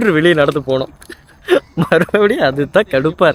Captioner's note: laughter